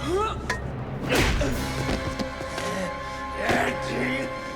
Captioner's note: Dalton grunts; blows thudding; Gammon growls; tense music continues